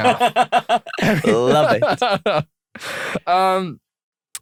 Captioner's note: laughter